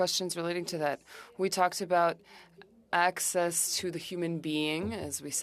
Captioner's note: speaking French